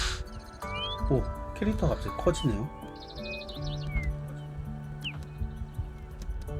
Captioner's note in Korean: 콧방귀